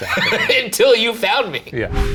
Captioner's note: laughs